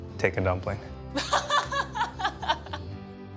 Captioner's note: laughs